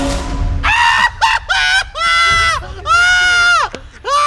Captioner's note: Trixie screams